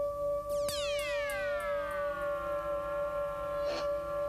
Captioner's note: whirs